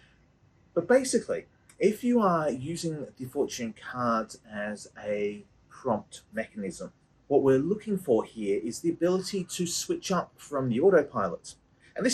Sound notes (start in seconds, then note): none